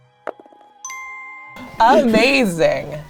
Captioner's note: bell dings